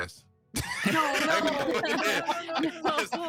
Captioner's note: group laughing